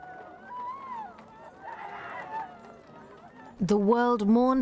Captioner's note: horses galloping; spectators wailing